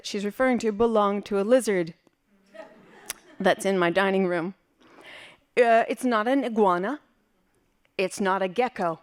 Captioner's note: laughing